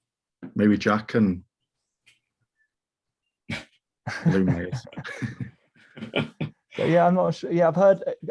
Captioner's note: laughing